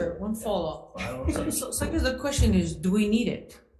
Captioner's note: chuckles